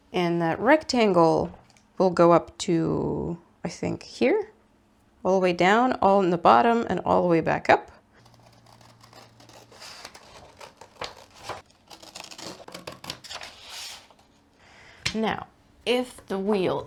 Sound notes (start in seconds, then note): 8.2 paper cutting noises